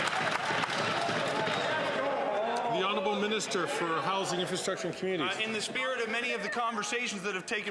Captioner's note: some Applause